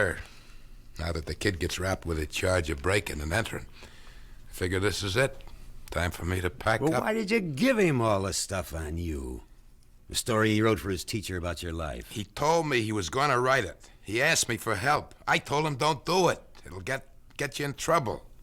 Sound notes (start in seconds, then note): none